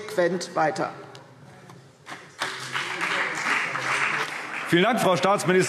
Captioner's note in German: Beifall CDU und BÜNDNIS 90/DIE GRÜNEN